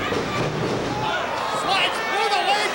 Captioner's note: feet stomping